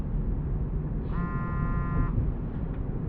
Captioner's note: phone buzzes